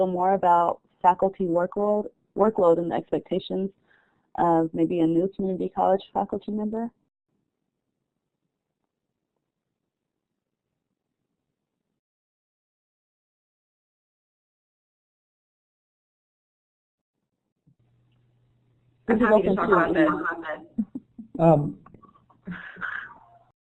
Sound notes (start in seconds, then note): 6.9 silence